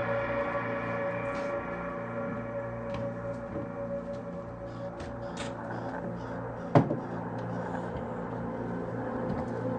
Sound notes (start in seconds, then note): 0.7 footsteps on wood floor; 6.6 chair clicking on floor